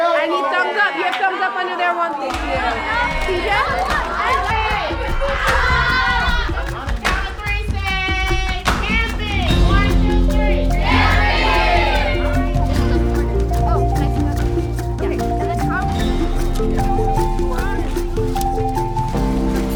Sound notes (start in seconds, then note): 3.9 students cheering; 14.0 cheerful instrumental music